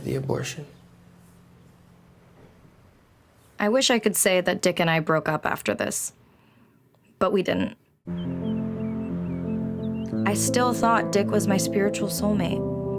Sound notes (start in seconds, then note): none